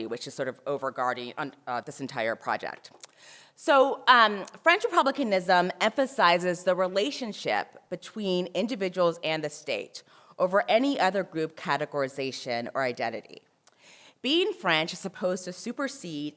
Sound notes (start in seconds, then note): none